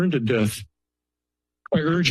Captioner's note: pause